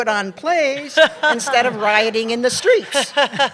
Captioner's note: laughter